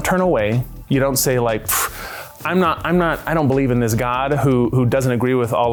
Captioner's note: scoffs